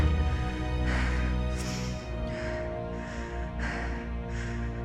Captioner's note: heavy breathing